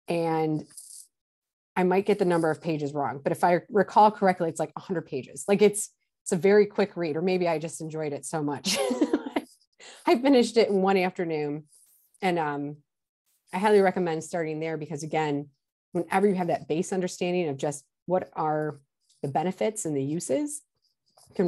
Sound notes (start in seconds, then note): 9.5 laughs